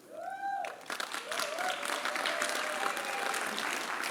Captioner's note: applause